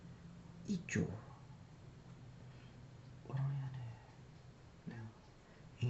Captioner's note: speaking in foreign language